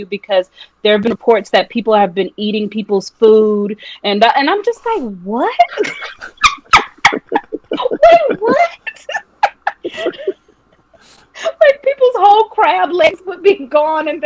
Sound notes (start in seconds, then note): 6.9 laughing